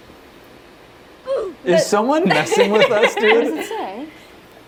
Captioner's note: laughing